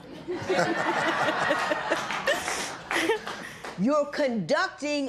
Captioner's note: laughter